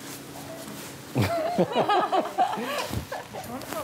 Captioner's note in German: Alle lachen